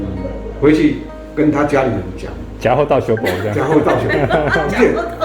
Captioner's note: Taiwanese